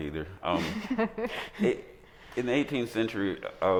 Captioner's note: group laughing